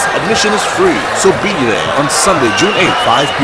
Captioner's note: wild applause and cheering for 22 seconds